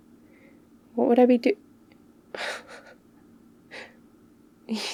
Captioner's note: laughs